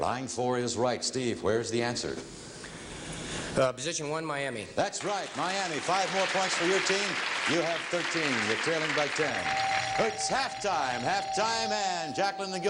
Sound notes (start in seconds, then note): 9.2 ringing bell